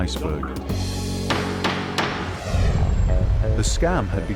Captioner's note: gavel banging